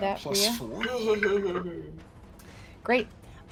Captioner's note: chuckles